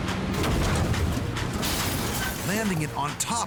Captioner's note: loud crash